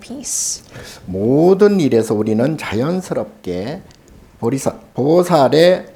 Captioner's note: speaking Korean